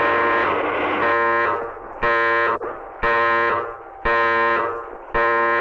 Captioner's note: alarm blaring continues